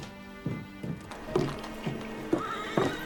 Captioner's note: horses neigh at a distance